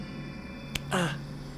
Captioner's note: slap